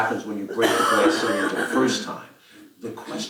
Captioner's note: cough